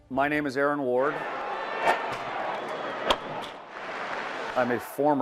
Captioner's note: crowd cheering